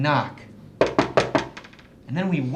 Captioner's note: knocking